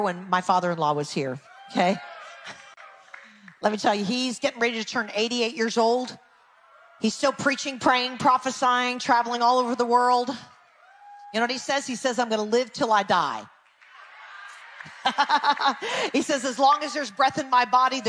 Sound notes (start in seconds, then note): 1.4 people cheering; 13.7 people cheering; 14.9 laughs